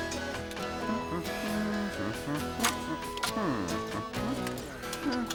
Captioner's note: humming